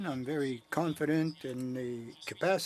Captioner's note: speaking French